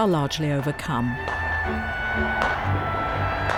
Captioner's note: fireworks exploding; crowd cheering